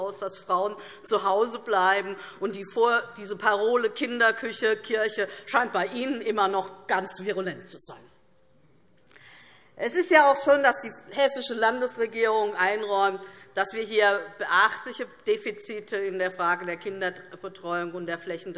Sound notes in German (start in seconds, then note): none